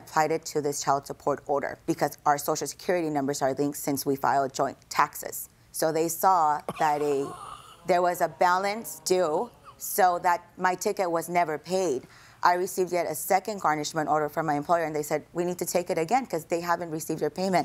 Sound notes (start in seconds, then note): 6.6 chuckles